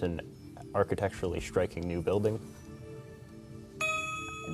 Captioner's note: ding